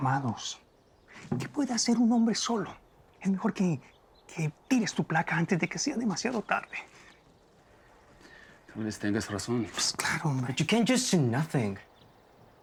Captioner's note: speaking spanish